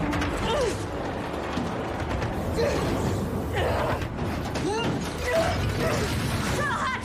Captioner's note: grunting